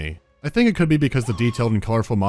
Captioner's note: Marv scream